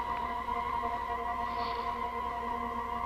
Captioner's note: exhales